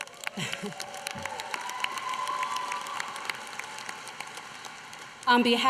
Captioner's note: applause